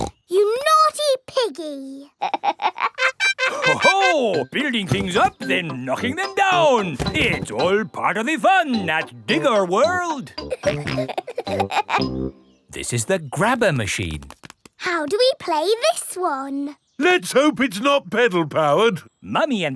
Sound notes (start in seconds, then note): 0.2 snorts; 2.2 laughs; 10.4 peppa and george laughing